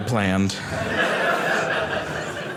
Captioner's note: audience laughing